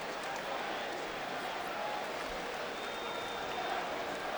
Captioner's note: crowd clamoring